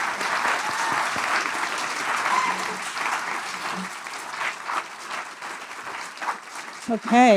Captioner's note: applause